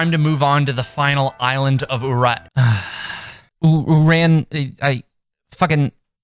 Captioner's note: sigh